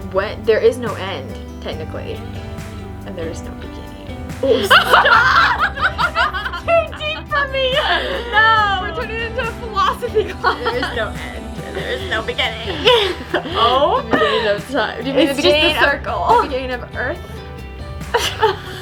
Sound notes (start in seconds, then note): 5.8 laughing; 10.9 laughs